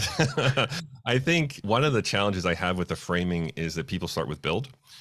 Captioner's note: laughs